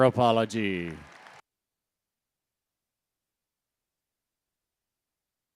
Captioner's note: audience applauding